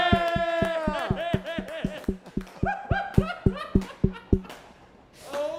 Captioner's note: laughter